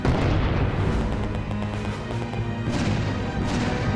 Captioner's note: bomb exploding; gunshots firing; tense music